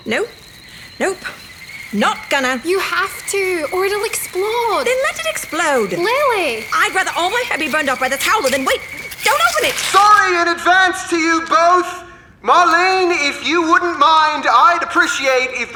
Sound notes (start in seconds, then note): 8.8 envelope tears